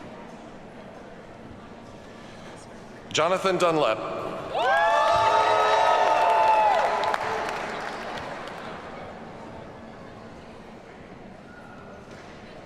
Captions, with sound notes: Jonathan Dunlap. (audience cheers and applauds)